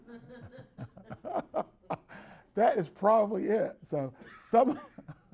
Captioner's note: everyone laughs